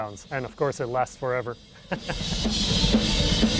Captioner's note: chuckles; upbeat drum solo